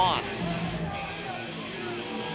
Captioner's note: crowd cheering